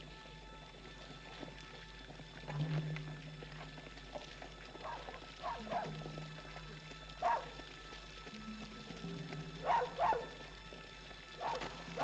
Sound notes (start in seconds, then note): 4.7 dog barking